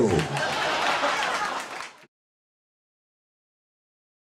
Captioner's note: laughing